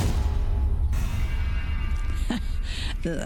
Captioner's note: distant metallic explosion